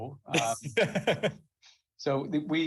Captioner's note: laughs